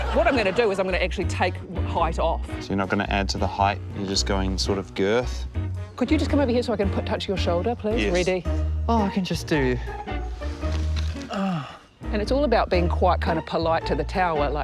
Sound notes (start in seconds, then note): 11.0 groans